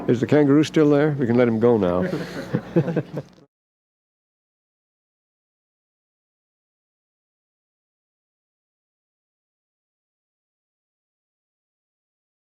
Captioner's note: laughter